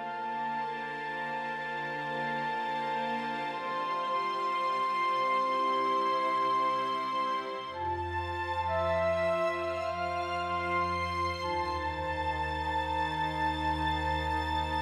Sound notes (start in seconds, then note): none